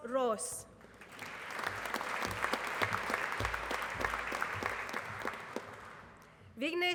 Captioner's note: applause